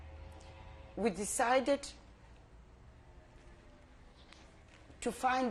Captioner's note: pauses for 3 seconds